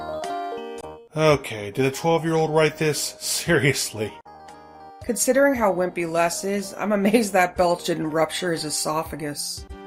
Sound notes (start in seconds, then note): 1.7 sighs